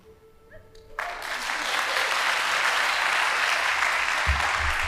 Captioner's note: audience applauding